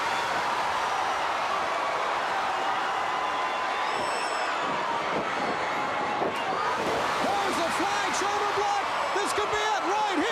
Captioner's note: crowd cheering